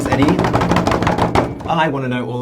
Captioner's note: hands beating table